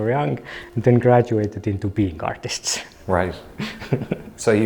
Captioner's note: chuckles